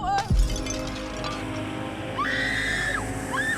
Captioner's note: screaming; snake hissing